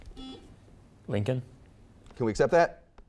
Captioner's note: buzzer beeping